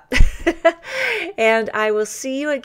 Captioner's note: laughs